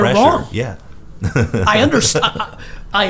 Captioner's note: laughs